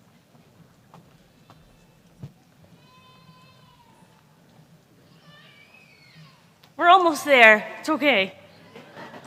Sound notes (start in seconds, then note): 2.8 baby crying; 8.4 laughter